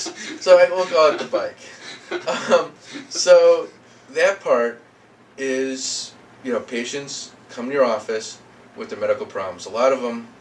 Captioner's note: laughing